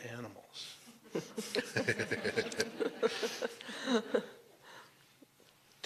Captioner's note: laughter